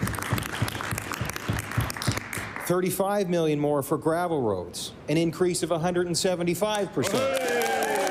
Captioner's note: applause